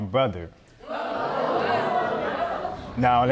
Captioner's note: audience gasp